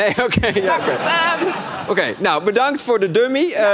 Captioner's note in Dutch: gelach